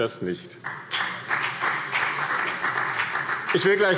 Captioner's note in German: Beifall BÜNDNIS 90/DIE GRÜNEN und vereinzelt CDU